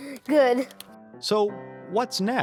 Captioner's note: both laugh